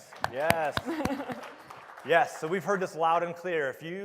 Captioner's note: applause